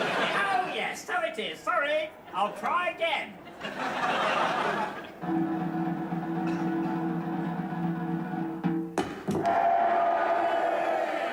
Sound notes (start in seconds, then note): 8.9 thudding; 9.1 crowd cheering